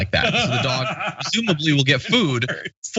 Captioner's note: laugh